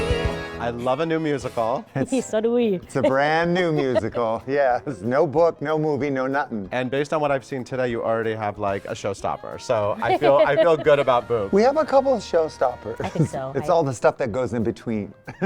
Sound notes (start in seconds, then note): 3.0 chuckles